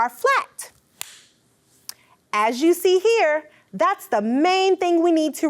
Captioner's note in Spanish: las manos aplauden